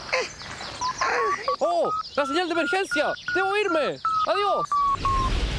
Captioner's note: emergency signal sounds